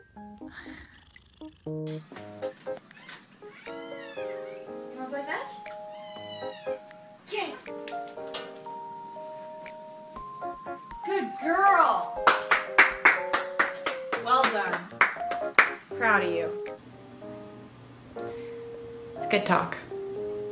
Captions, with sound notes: You want to go fetch ? Get it ! Good girl ! *claps* Well done, I'm proud of you It's good talk